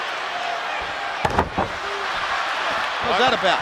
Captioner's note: audience cheers; body thuds